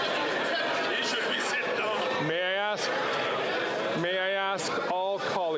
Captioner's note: chatter